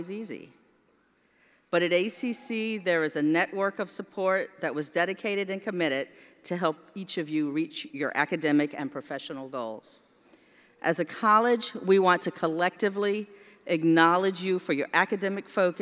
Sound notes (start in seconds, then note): none